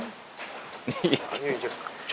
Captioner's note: laugh